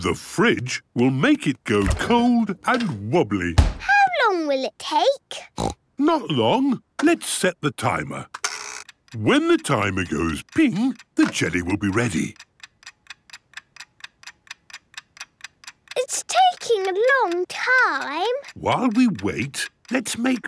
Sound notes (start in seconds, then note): 5.5 snorts; 13.1 ticking